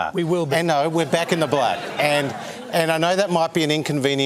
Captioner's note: laughter